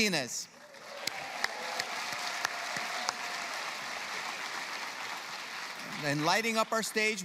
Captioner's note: applause